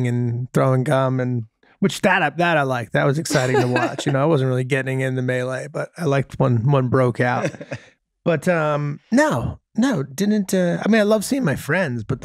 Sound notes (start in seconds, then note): 7.0 Rob laughing